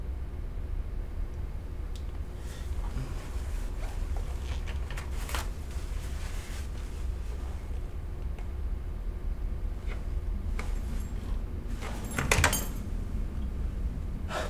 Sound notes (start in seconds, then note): 3.7 tearing toilet paper